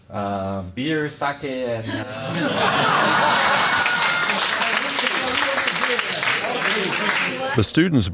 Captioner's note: audience laughing